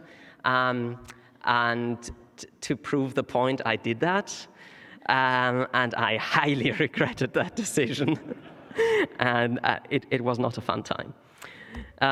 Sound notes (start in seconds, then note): 7.8 laughter